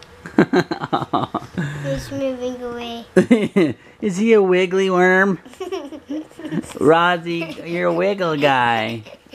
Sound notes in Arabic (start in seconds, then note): 0.3 يضحك; 5.4 يضحك